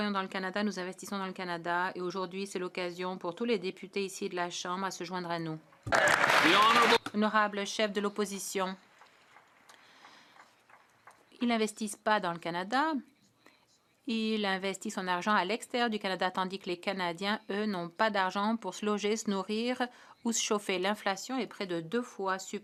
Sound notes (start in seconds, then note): 10.4 some Applause